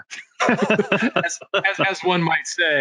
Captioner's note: all laughing